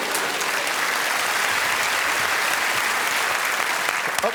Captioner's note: cheers and applause